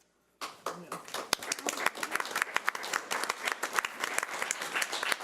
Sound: audience applauding

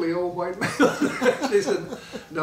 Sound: laughing

